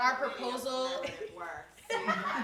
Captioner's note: indistinct conversation; laughing